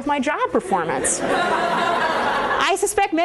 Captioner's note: laughter